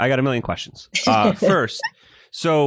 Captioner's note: laughs